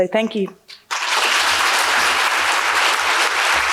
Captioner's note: applause